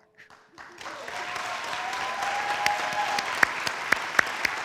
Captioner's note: audience applauds